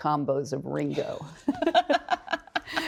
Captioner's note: both laughing